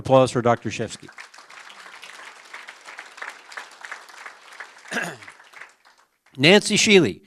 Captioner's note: applause